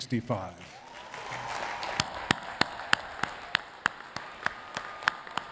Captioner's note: attendees cheering and clapping